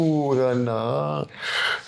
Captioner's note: non-english speech